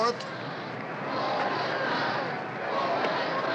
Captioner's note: crowd chanting